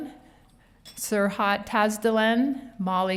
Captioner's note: none